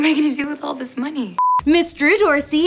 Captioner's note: beep